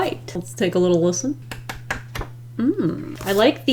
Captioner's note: paper flapping